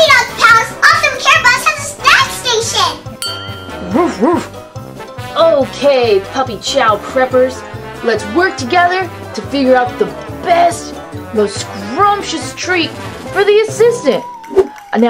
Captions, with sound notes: The puppy dog palace also care bus has a snack station. (Chase barks) - Okay. Puppy chow preppers. Let's work together to figure out the best, most scrumptious treat for the assistant.